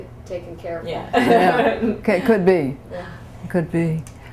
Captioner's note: laughter